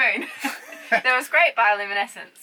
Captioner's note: both laughing